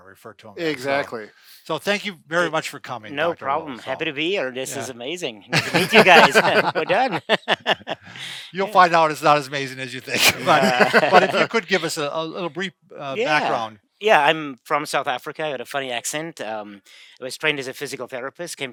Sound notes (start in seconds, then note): 7.4 laughs